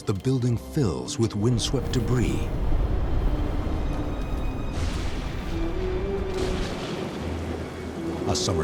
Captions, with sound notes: the building fills with windswept debris. [thunder rumbles] [lighting cracks]